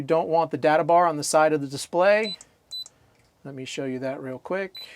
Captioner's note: beeping